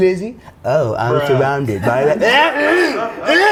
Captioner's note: mockingly